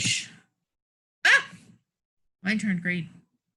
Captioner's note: yells